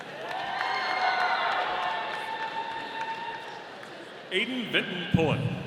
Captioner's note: audience applauding